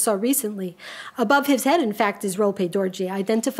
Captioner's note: speaks a foreign language; speaks a foreign language